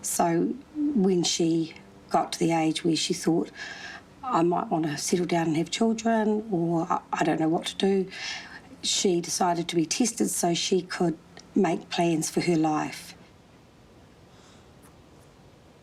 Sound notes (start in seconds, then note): none